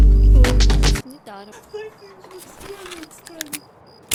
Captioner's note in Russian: смеется